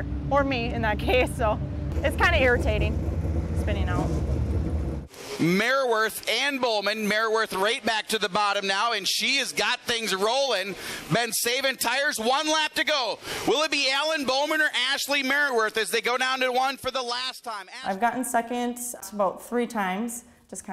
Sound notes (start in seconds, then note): 5.5 voiceover